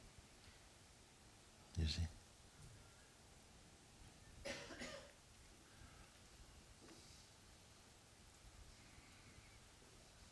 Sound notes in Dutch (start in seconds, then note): 2.1 stilte